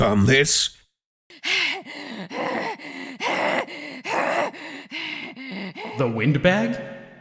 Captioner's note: heavy breathing